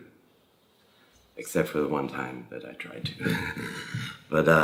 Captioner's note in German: lacht